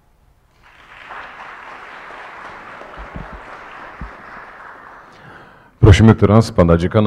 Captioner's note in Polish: oklaski